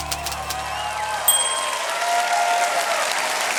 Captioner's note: typewriter keys tap; typewrite bell dings; cheering, applause